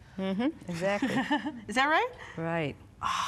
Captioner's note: laughs